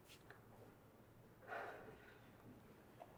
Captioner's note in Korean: 지석 한숨 소리